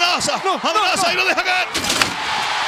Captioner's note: applause